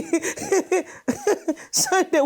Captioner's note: laughs